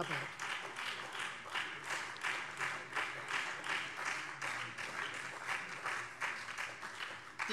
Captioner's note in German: Beifall Freie Demokraten, CDU und SPD